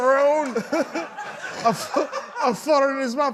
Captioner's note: laughter